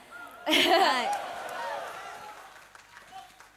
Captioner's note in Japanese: 笑い